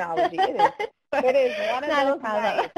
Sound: laughing

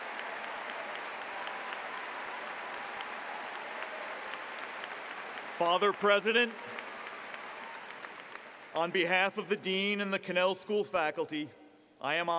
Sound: applause

